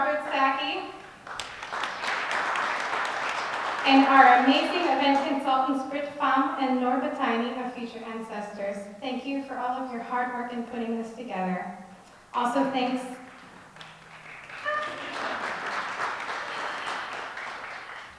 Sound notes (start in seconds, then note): 0.9 audience clapping; 16.1 audience clapping